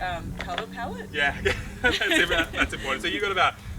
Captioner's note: laughs